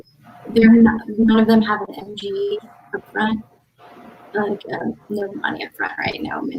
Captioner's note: radio interference drowns out speaker